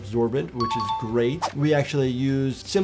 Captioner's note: bell dinging